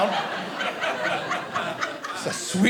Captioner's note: audience laughing